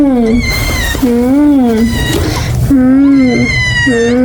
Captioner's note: ung